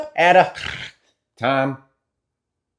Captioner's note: snore